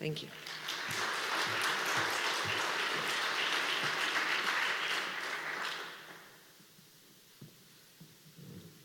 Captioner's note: applause